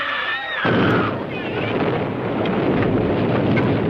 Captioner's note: loud explosion